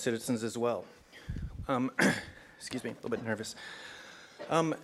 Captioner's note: cough